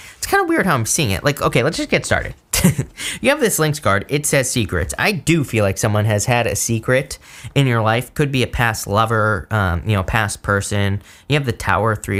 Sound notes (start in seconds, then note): 2.5 laughs